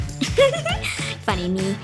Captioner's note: giggling